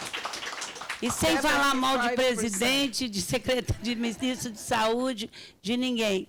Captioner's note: speaking Portuguese